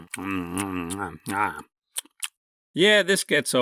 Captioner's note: chewing continues; intense chewing